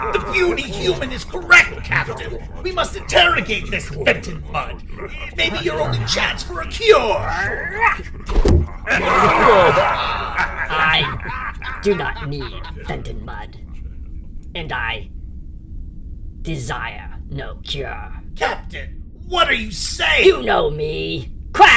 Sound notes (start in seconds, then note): 8.0 knife whistle, thunk; 9.1 Klingon cheers, laughter